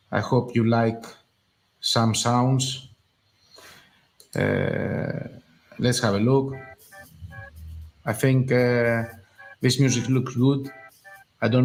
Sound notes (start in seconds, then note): 4.4 mouse clicks; 6.0 light upbeat techno